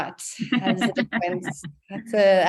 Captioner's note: laughing